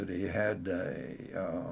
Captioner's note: laughs